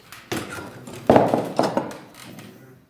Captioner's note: clattering